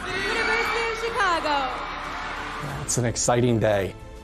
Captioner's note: audience applauding